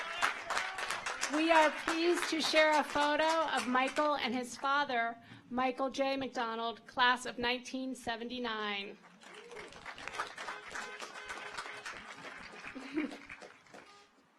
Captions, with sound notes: Anthony Fanucci. (audience applauds) (car horns honking)